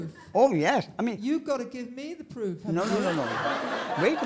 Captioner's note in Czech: smích